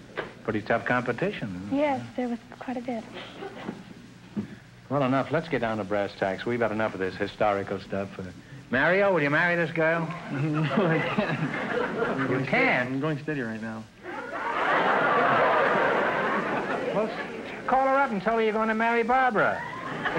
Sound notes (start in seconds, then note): 10.2 laughing; 11.7 audience laughter; 14.0 audience laughter